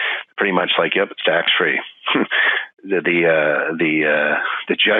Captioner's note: chuckles